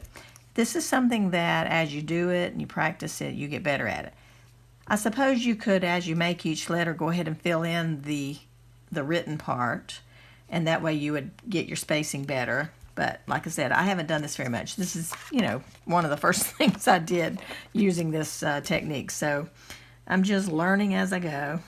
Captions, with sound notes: This is something that as you do it and you practice it you get better at it I suppose you could as you make each letter go ahead and fill in the the written part And that way you would get your spacing better, but like I said, I haven't done this very much this is you know one of the first things I did using this technique, so (giggles) I'm just learning as I go